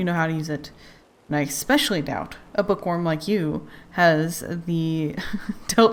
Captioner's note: laughs